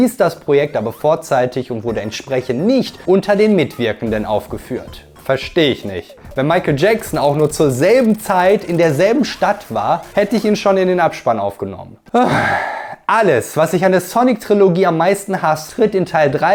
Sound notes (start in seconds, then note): 12.1 sigh